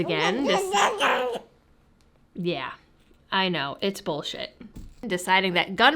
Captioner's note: baby sounds